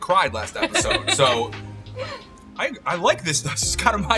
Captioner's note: laughing